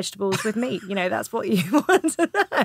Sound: Romesh laughing

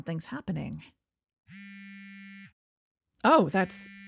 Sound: phone buzzes

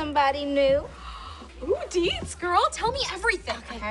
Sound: gasps

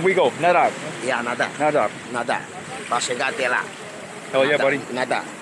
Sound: speaks Portuguese; both speaking Portuguese

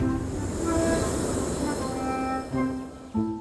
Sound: sound of wind

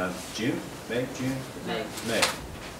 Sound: crowd

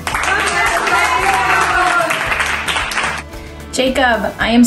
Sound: piano music; clapping

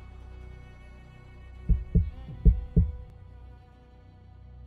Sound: heart Beats

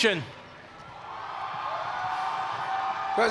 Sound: cheers and applause

